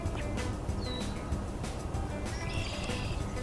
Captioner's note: another bird whistles in background